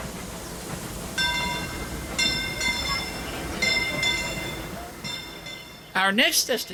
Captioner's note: bell ringing